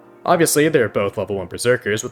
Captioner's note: none